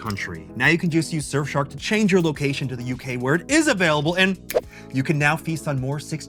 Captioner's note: snaps